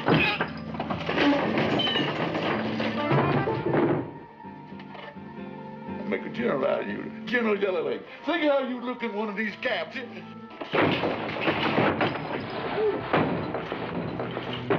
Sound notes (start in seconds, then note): 0.0 thudding; 0.2 grunting; 10.6 thudding